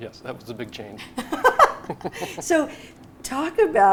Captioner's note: both laugh